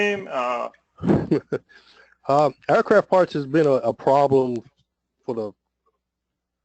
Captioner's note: laugh